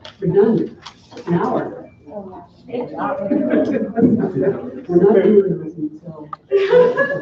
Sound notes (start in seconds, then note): 1.0 overlapping chatter